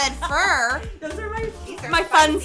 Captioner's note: laughing